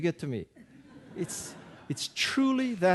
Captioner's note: audience laughing